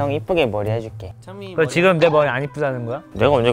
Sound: Sarcastic

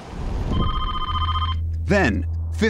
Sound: phone ringing

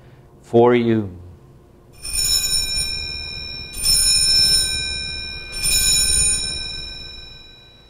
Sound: bells ringing

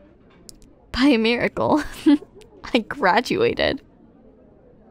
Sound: chuckle

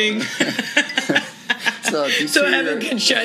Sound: both laugh

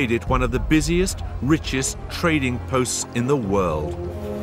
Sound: none

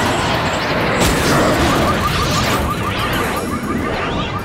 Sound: car alarm wailing

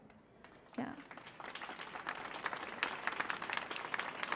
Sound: applause

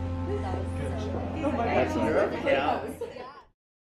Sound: group chatter

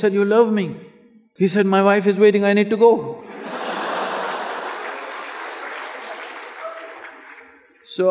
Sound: laughter

